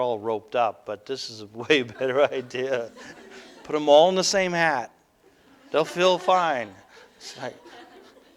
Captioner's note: audience: Laughter